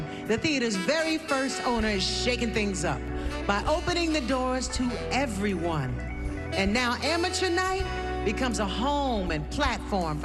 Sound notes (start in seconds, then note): none